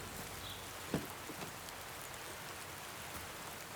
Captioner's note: birds chirping